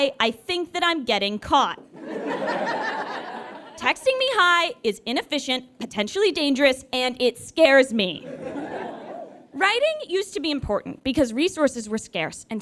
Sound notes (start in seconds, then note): 1.9 audience laughs